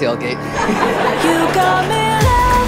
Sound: group laughing; dance music playing

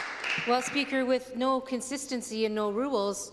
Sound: some Applause

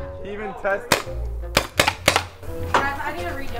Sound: paint ball gun clacking

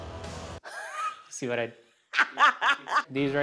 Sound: laughs

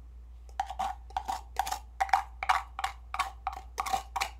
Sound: spoon scraping

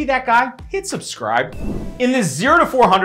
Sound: air whooshing

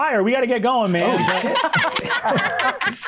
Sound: players laughing

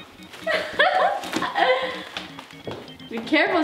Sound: laughing

